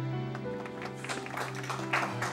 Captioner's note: applause